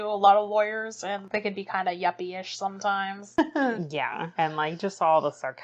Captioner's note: laughs